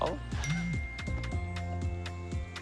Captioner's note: phone chimes